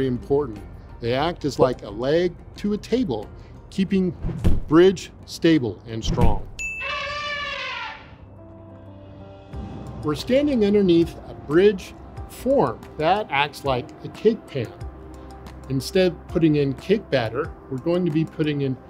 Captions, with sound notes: Now, columns are very important. They act as like a leg to a table, keeping the bridge stable and strong. (elephant trumpeting) We're standing underneath a bridge form that acts like a cake pan. Instead of putting in cake batter,